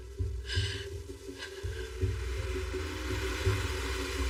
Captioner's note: breathingng heavily; car apppproaching